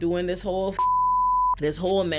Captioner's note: beep